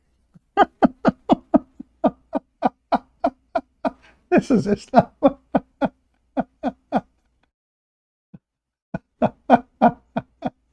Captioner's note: Ketawa